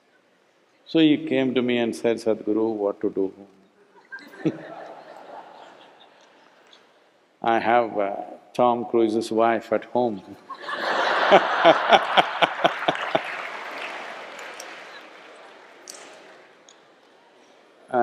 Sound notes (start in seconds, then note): 3.9 few Laughs; 14.4 laughter